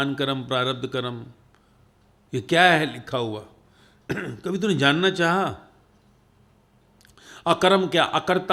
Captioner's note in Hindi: गला साफ़ करने की आवाज़